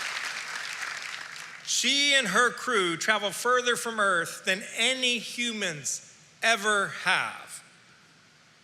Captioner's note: applause